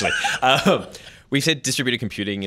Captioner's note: laughter